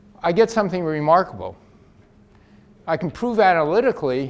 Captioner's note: none